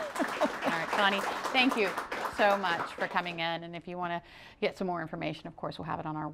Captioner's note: applause